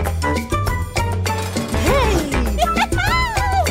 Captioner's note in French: rire